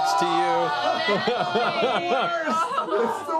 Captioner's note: screaming